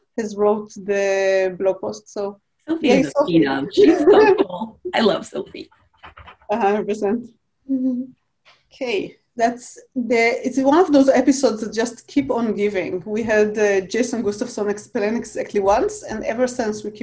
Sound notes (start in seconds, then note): 3.8 chuckles